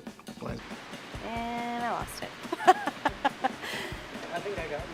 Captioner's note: laughing